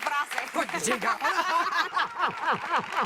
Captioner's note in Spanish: Aplausos; Risas